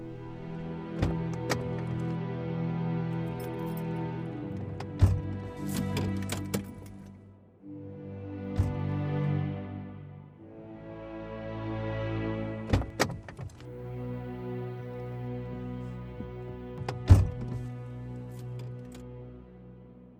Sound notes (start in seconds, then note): 0.1 solemn orchestral music; 1.0 car door clicking; 4.3 car door thudding; 12.7 car door clicking; 16.7 car door thudding